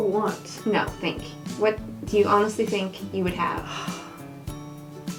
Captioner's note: sigh